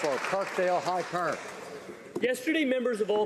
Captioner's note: some Applause